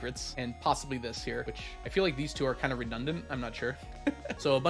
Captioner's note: laughs